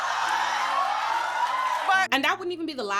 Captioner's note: audience cheering